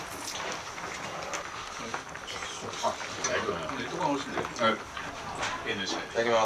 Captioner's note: sound of blowing on the anglerfish hot pot to cool it down